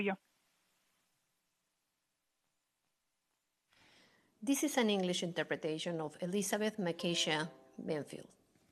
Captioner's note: speaking in spanish